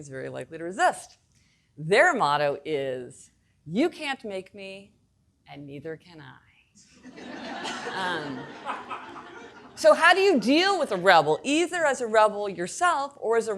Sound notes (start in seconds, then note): 7.0 audience laughing